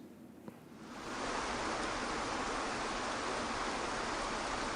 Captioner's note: waterfall roaring